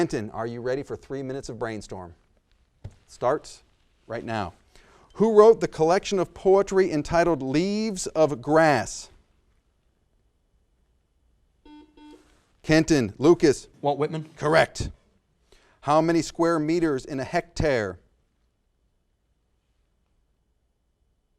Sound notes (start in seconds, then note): 11.6 buzzer sounds